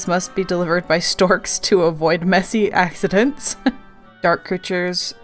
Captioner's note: laughing